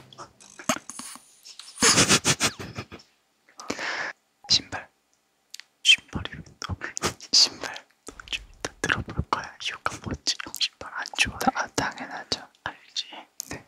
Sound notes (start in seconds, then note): 8.1 confused